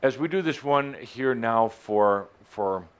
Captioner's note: none